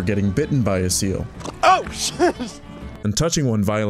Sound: animal snarls

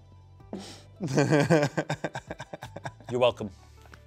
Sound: laughs

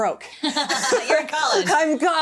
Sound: laughing

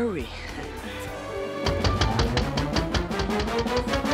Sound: knocking

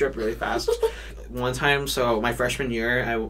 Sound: giggles

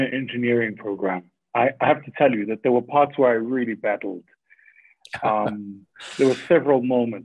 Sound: Sadhguru laughs

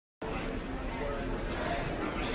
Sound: chatter

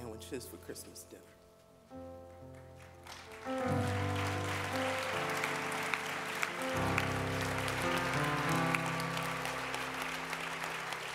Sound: audience clapping

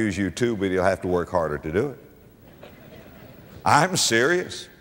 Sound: audience laughter

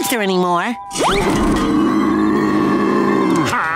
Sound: growling

